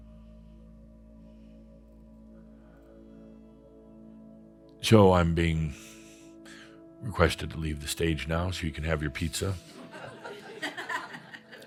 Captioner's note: some chuckles